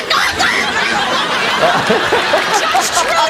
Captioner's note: screams